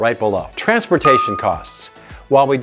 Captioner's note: bell dings